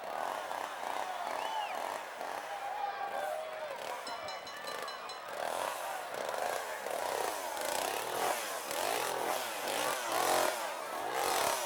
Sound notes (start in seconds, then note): 4.0 bell ringing; 5.3 chainsaw revving; 6.5 audience murmuring